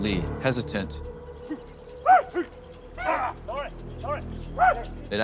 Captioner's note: warriors shouting